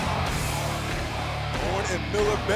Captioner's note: crowd cheering